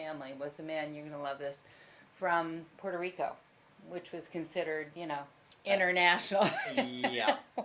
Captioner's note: laughs